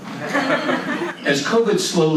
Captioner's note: audience laughs